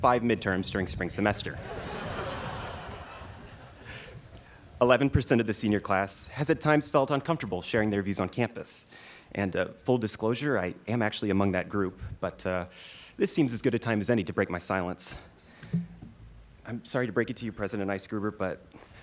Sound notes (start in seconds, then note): 1.6 students laughing